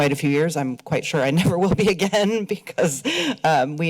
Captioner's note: laughs